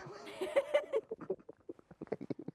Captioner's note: both laugh